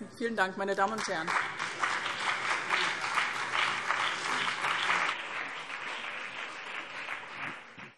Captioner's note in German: Beifall BÜNDNIS 90/DIE GRÜNEN und CDU